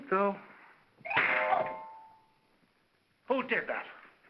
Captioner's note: crack; whimsical music